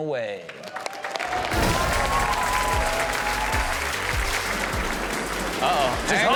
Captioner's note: audience cheers; rock music